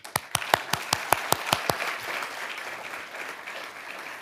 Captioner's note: audience applauding